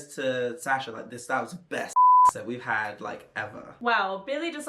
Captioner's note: beep